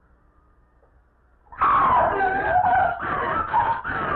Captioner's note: screams, gasps